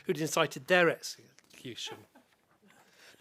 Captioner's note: chuckling